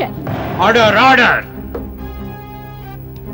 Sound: gavel tapping

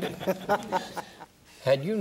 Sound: group laughing

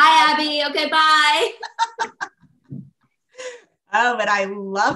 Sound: laughs

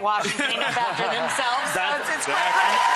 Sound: audience laughs; audience applauds

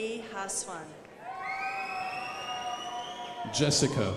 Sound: crowd applauding

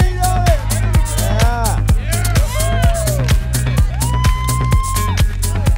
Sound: cheering

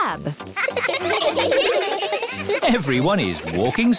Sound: laughing

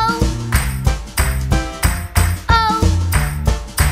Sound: clap

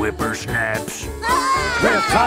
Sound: scream

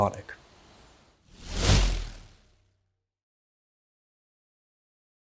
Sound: logo whooshes

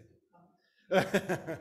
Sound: audio break; laughing

